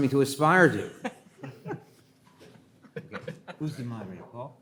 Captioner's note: laughing